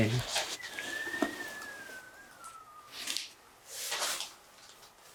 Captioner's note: whistle